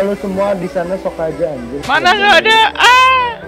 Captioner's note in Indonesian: cursing and mocking